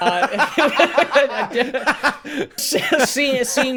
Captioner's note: laughing